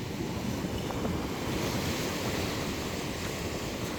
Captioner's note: sounds of the waves crashing